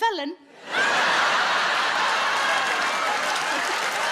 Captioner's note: audience laughs